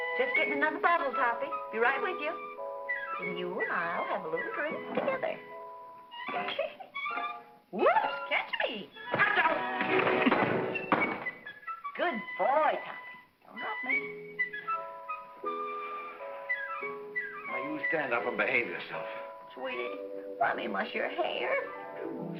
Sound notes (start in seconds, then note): 6.2 Gail giggles; 9.0 bottle & chair clatter; 15.0 whimsical music